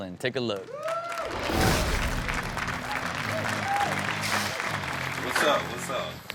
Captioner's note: audience cheers; upbeat rock music